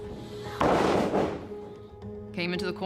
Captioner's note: ring thuds